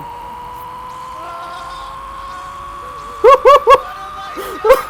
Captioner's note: Space Balls sounds